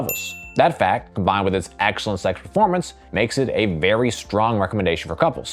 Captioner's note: ding